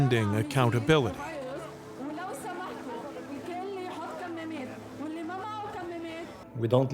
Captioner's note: speaking in foreign language